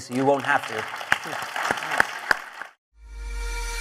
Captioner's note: applause